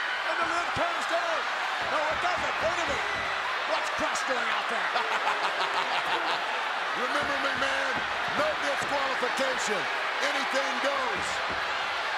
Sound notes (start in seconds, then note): 4.7 laugh; 11.7 applause